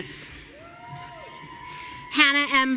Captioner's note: audience cheering